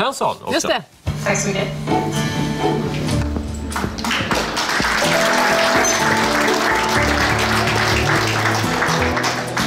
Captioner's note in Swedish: Applåder